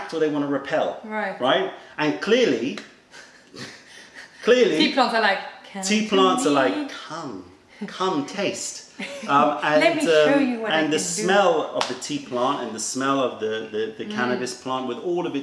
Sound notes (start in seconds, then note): 9.0 laughter